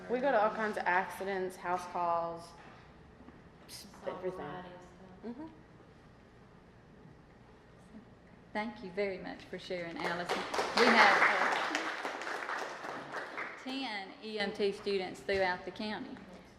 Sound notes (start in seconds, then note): 10.0 applause